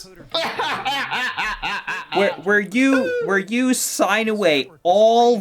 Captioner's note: laughs in the existential threat